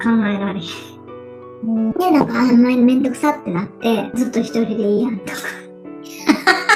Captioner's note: laughs